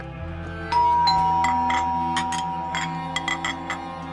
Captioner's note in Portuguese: campainha toca